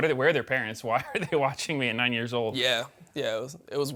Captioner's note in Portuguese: risos